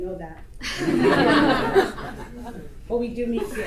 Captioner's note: audience laughter